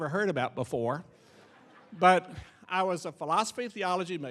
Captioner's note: audience laughing